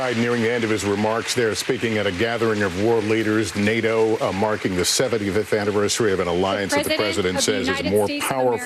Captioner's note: applause